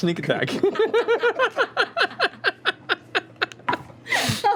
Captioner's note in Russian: смех